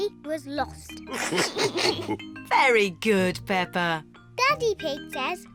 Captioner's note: all laugh